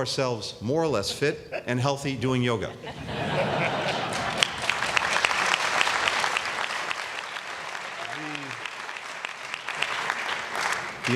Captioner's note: laughter and applause